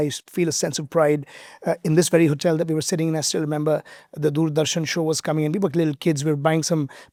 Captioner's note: none